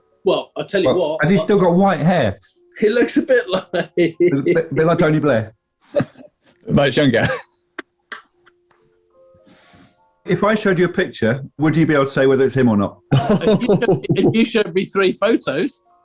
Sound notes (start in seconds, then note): 3.1 laughing; 7.8 laughing; 13.1 chortling